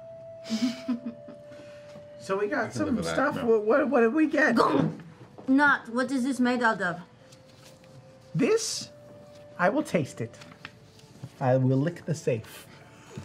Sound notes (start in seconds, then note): 5.2 heavy thud